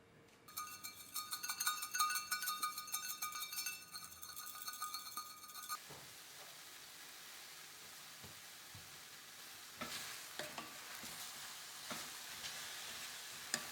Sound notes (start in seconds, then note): 8.9 only coarse salt left, making noise